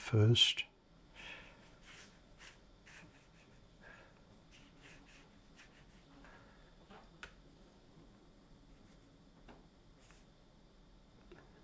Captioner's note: silence